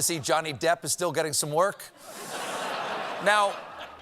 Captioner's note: laughter